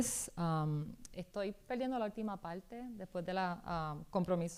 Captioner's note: speaking spanish